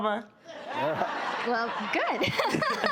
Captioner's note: laughter